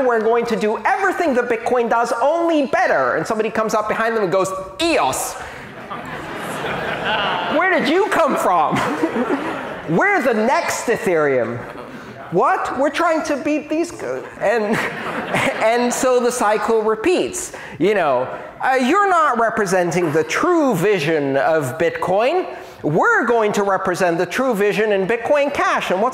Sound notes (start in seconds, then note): 5.6 laughter